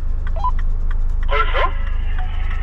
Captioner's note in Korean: 무전